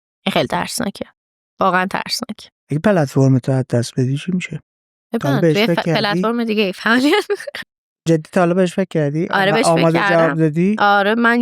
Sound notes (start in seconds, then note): 5.4 laughs